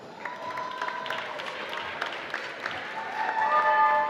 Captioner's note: applause